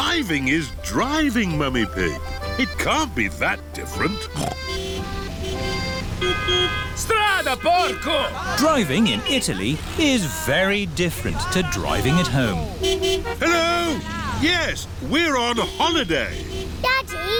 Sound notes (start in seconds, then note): 4.1 snorts; 5.3 driver yells in italian; 5.3 horns honking; 13.8 horns honking